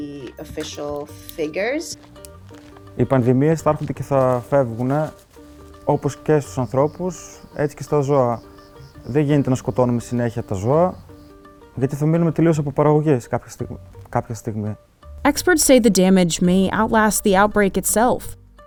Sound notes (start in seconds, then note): 3.4 speaking in foreign language